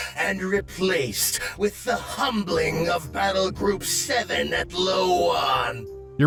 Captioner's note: none